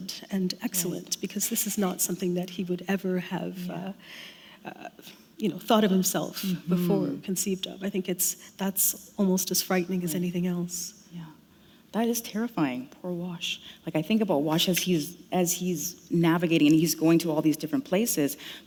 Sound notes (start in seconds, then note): none